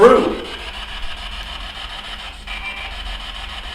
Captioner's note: static buzzing